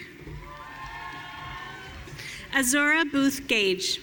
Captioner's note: audience cheering